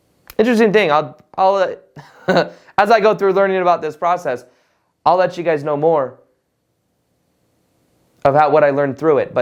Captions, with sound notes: Interesting thing. I'll- (chuckles) As I go through learning about this process, I'll let you guys know more about what I learned through it.